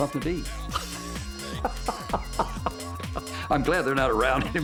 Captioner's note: laughs